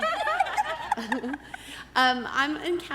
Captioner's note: laughing